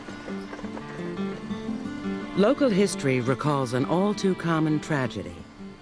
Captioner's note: none